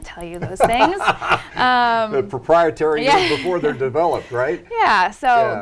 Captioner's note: laughs